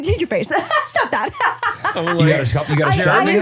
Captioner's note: laughing